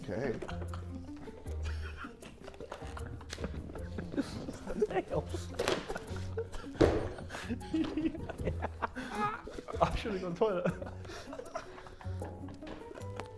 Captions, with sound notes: - Okay. - There's her nail. (Sidemen laughing)